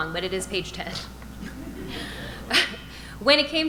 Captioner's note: audience laughing